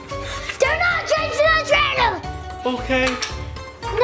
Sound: shouts

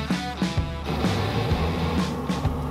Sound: fire whooshing; upbeat rock music

